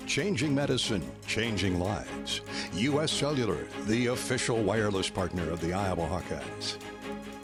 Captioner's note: none